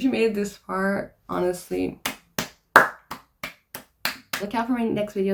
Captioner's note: slow clap